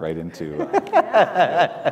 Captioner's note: laughs